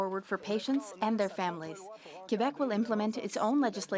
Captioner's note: speaking French